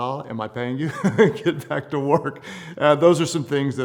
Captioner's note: laughing